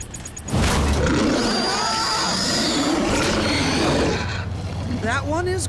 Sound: growling; screaming

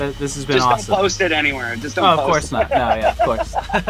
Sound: laughs

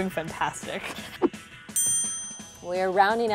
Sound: bell ringing

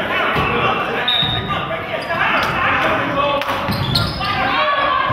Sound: whistle blows

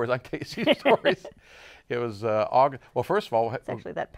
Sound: laughs

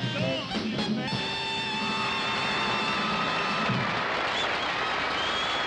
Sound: audience applauding

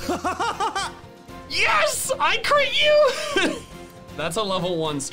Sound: laughs; laughs

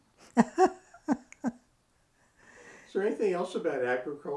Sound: laughs

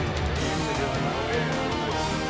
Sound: indistinct chatter

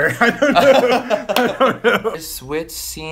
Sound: laughs

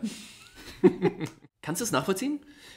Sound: laughs

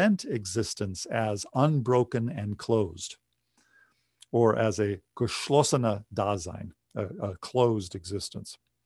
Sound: speaking german

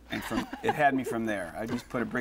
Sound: laughter

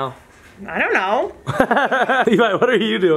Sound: laughs

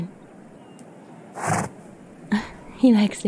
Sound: snort of approval

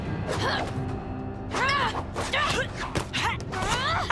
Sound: grunting; laughing

